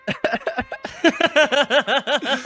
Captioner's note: laughing